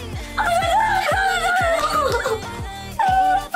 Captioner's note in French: elle crie je comprends rien